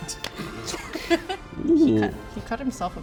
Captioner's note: laughter